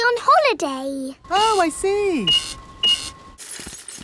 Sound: cash register beeping

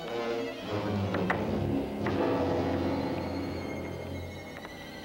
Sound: rocks clanking

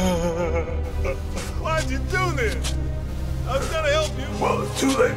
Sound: crying

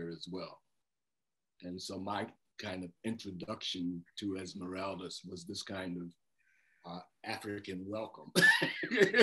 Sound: laughter

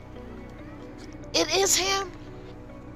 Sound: none

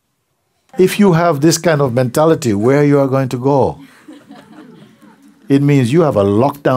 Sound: laughter

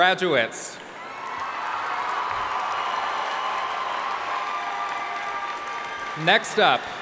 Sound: audience cheering and applauding

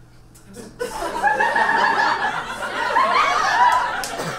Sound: audience laughs

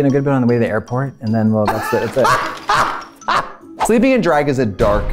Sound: laughs

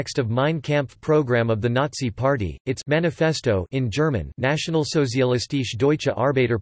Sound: in German

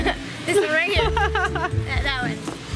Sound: laughs

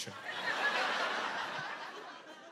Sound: laughter

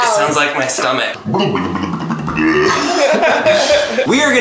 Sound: distorted grumbling

